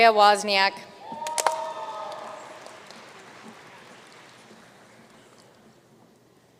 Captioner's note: audience cheering and applauding